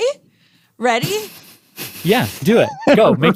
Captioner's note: laughs